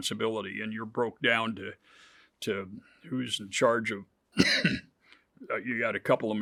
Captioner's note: coughs